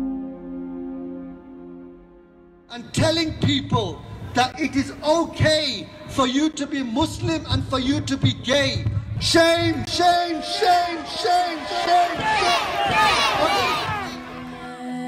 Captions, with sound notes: [Loudspeaker] And telling people that it is okay for you to be MUSLIM and for you to be GAY SHAME! SHAME! SHAME! SHAME! [Crowd] SHAME! SHAME! SHAME! SHAME!